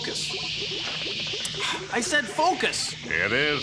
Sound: sighs

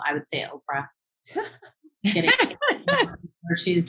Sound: light laughter

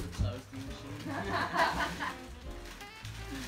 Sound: laughs

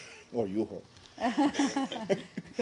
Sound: laughter

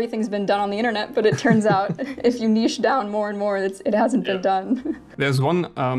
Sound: giggles

